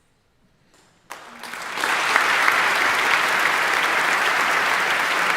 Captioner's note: audience applauding